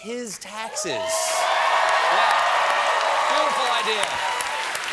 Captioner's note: cheers and applause